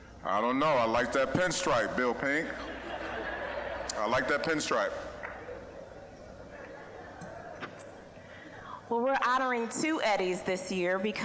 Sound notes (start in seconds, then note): 2.9 audience laughing